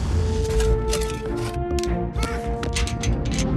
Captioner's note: men shoveling and shouting